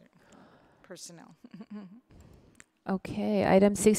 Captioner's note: chuckles